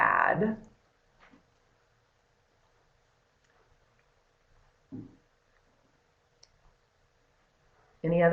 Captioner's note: no sound - waiting for questions